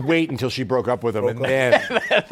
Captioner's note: laughs